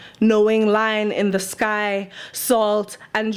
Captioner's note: none